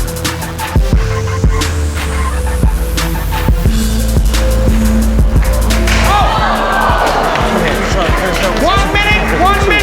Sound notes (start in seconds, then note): 0.3 intense music; 5.6 crowd